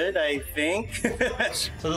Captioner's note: laughs